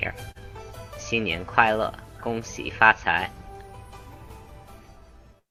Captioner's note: speaks in Chinese